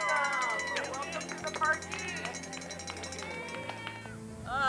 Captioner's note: spectators applauding